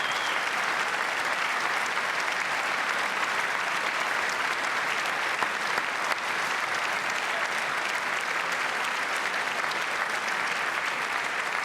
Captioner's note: cheers and applause